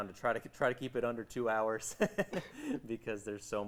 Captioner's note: laughing